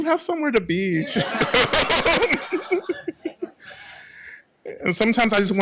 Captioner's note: laughter